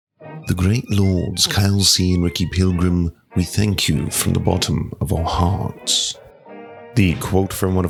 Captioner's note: definitely English voice